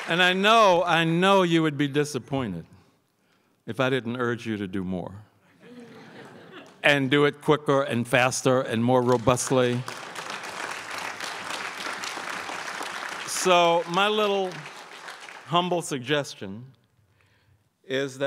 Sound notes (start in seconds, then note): 5.6 crowd laughs; 9.0 crowd applauds